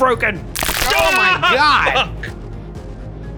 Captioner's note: bones crunch